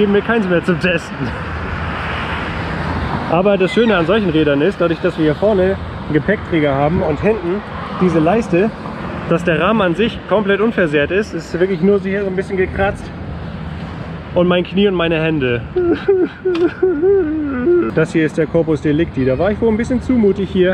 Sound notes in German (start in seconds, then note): 15.7 weint